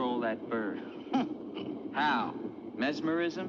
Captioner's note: old woman laughs